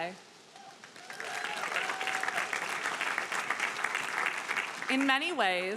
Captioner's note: audience applauding